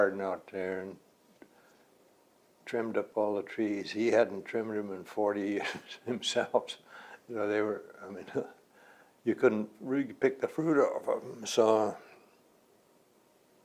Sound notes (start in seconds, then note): 5.6 laughs